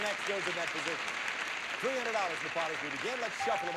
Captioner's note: audience applauding